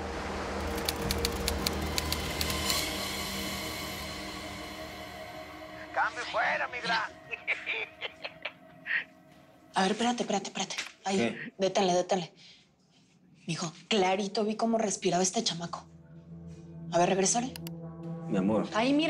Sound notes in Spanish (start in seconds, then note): 7.2 Risas